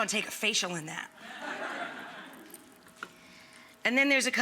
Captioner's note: audience laughs